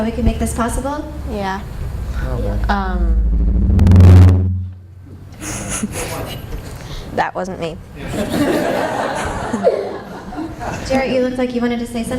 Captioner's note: mic feedback; laughter